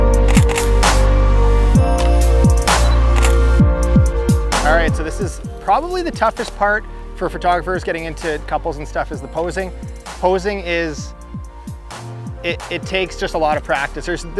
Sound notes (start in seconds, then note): 0.1 click, click; 2.7 camera beeps and shutter clicks